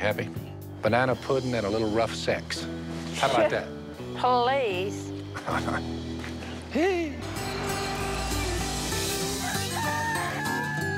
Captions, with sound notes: Banana pudding and a little rough sex. -How about that? -[scoffs] Please! [chuckles] [Phil giggles mischievously] [rooster crowing]